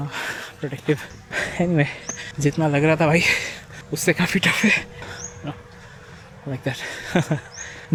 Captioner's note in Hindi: हंसी